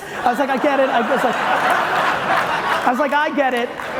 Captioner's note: audience laughing loudly